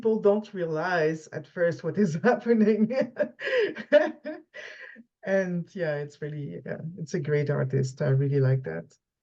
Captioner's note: laughs